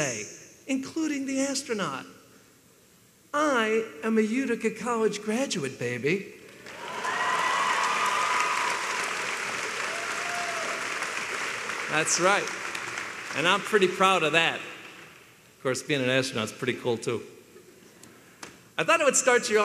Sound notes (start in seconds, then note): 6.6 applause